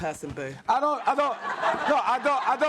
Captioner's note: audience laughs